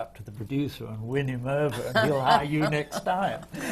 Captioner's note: laughter from the panel